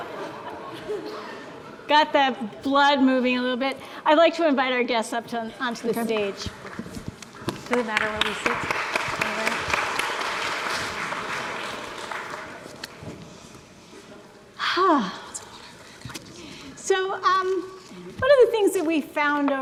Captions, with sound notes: Got the blood moving a little bit. I'd like to invite our guests up onto the stage. (murmurs) (audience applauds) - So, one of the things that we found